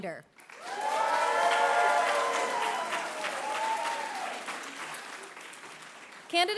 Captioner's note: applause; cheering; applause